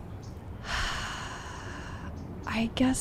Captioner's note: sighs